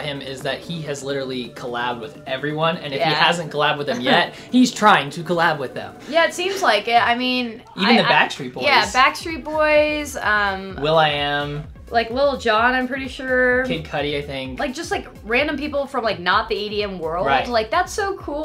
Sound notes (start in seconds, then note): 3.9 chuckles